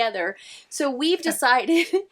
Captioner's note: laughing